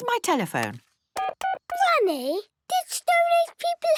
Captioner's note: dial tones beeping